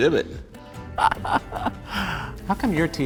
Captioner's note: laughter